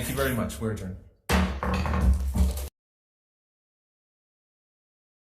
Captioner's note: gavel thudding